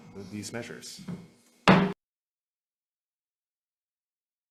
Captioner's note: gavel bangs